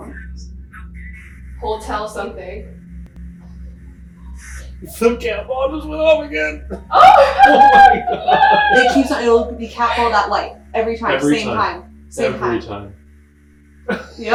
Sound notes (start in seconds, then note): 6.4 group laughing